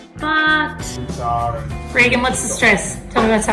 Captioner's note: male Voice